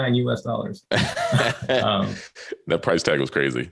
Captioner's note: both chuckling